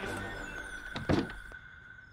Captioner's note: Door closes